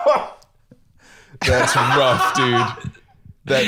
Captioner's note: laughs abruptly; laughs